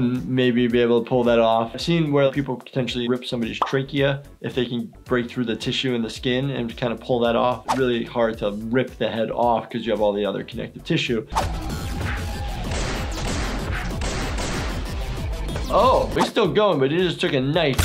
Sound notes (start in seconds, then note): 11.0 active music; 11.4 gun shots